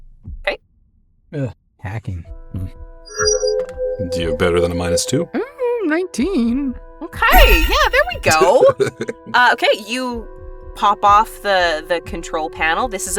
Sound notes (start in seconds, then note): 7.6 chuckles